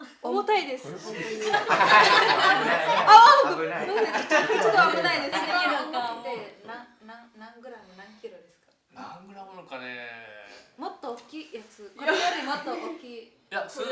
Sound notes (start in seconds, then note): 1.2 big laughter